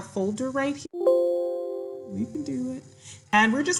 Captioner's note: bell chiming